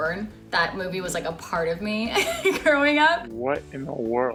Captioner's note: laughs